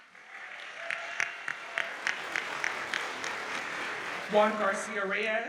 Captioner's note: audience cheers and applauds